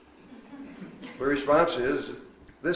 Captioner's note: woman chuckles